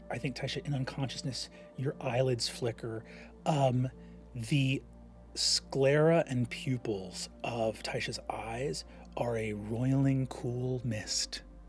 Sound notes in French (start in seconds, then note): none